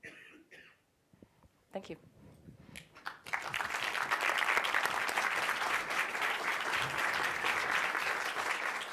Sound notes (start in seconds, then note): 3.0 audience applauds